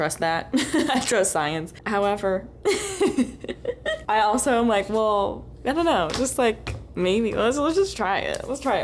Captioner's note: laughter